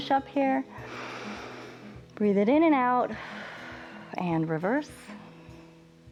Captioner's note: inhales